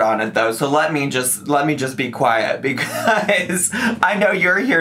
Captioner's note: laughing